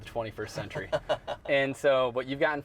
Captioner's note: laughing